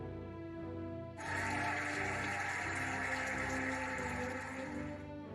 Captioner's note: cheering and applauding